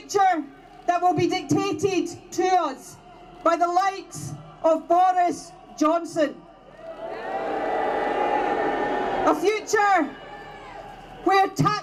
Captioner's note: crowd boos